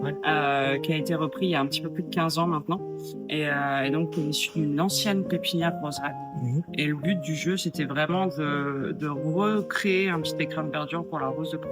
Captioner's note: french